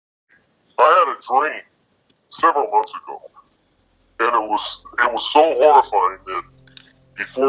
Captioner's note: disguised voice